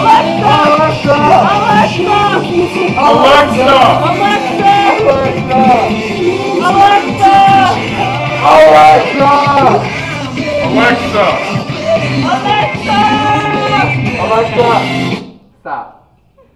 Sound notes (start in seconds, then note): 11.7 continue yelling